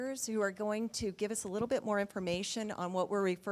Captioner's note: none